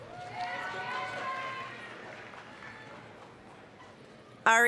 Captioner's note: applause, cheering